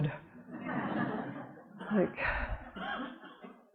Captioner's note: audience laughing